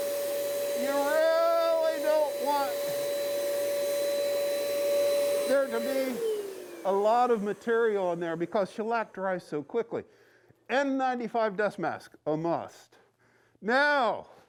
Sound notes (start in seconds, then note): 6.8 machine turning off; 7.8 normal voice